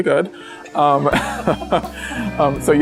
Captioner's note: laughs